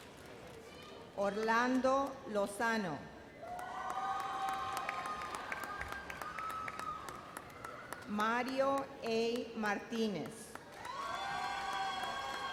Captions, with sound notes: Orlando Lozano. (audience cheers) Mario A. Martinez. (audience cheers and applauds)